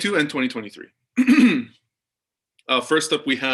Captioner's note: clears throat